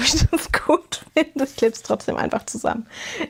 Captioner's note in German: gelächter